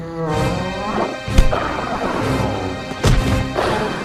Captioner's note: riverbeast roars